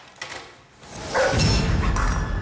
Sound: dog barks

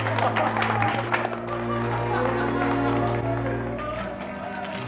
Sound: laughter and applause

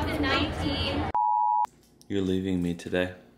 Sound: beep

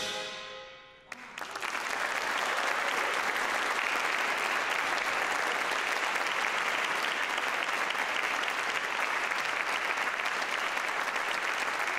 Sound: applause

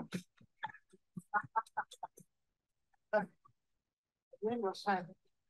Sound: laughs; non-english speech

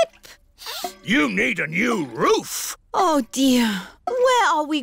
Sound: sniffs

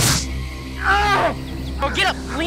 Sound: groaning in pain

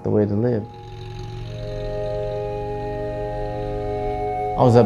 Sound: engine revs

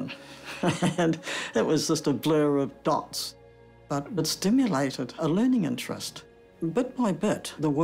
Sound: chuckles

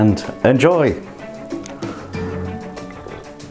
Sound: slurping tea

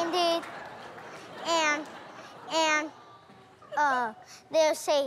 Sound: laughter

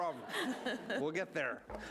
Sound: laughing

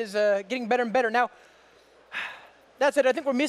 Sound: sighs

